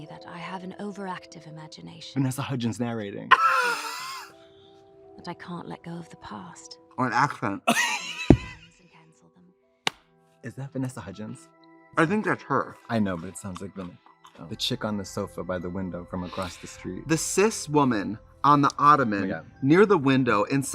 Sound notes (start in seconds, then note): 3.3 Trixie laughs; 7.7 Katya laughs